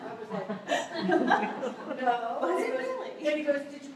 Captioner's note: laughter